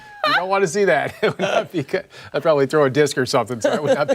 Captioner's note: laughter